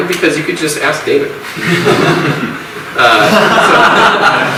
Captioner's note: audience laughs